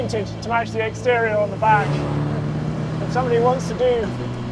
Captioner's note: vehicle revs